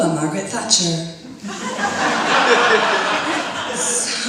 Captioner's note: audience laughs